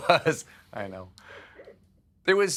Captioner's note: laughter